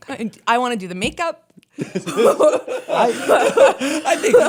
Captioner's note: laughter